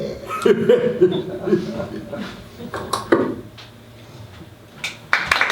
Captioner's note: SFX - The sound of a tape recorder turning off